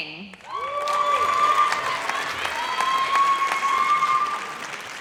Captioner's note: audience cheers